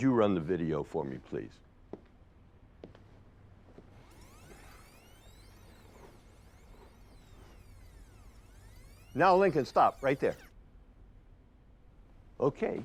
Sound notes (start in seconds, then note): 3.6 video tape squelching